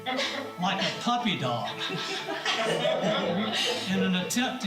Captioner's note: laughter